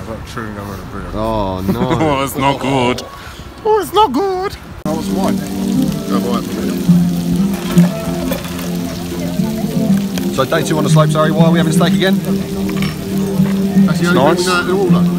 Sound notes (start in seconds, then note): 1.5 laughs; 6.3 sizzling